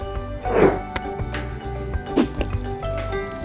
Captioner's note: sound effect of ball being thrown; sound effect of hula hooping